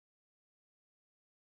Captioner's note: none